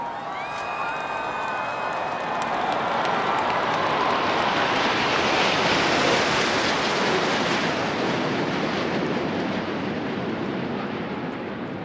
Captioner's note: gun salute; cheers and Applause